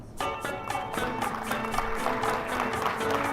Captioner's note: applause